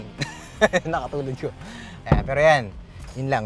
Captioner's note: laughing